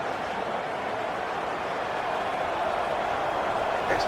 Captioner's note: crowd Noises